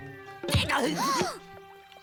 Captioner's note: smack